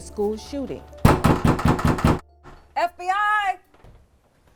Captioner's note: loud knocking